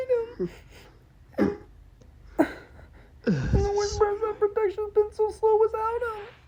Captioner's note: scoffs